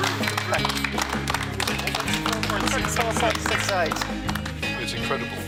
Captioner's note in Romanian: Aplauze